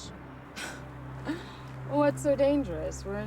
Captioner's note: Karen chuckles